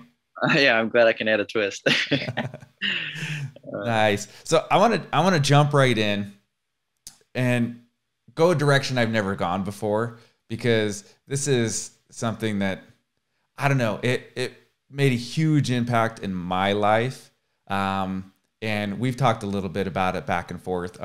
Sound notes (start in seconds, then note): 1.8 laughs